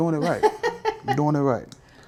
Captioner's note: laughing